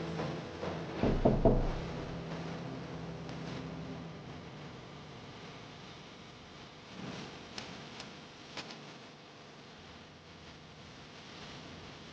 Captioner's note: knocks on window